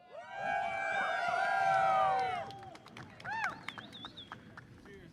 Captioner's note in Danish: Bifald